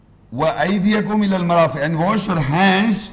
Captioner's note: Arabic